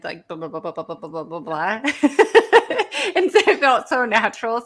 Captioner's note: laughs